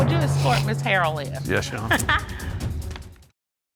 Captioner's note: chuckles